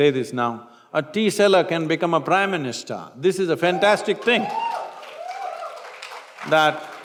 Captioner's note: cheer; applause